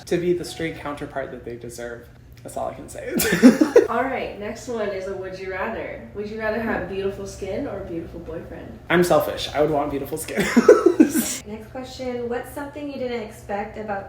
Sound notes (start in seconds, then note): 3.0 laughs; 10.3 laughs